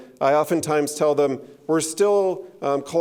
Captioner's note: none